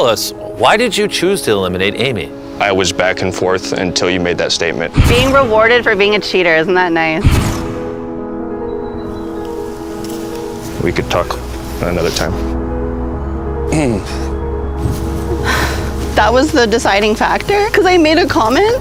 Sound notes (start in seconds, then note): 13.5 clears throat; 15.3 sighs